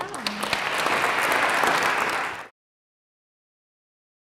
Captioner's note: audience applauds